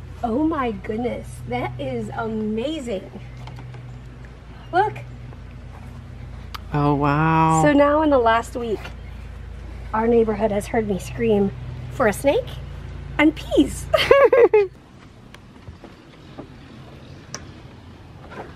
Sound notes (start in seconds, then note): 13.9 both laugh